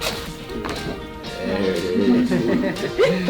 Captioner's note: bright music; neck cracking; both giggling